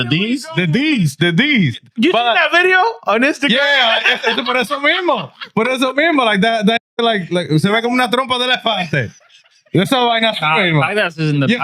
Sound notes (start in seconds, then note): 8.1 speaking In Foreign Language; 8.4 laughing